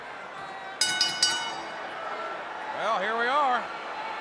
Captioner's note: bell rings